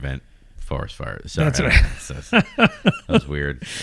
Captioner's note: uh